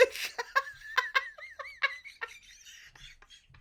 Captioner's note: laughs